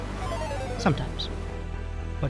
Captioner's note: thrilling music; game fail chiming